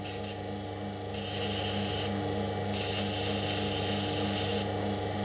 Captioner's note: gentle grinding noises, whirring of the turntable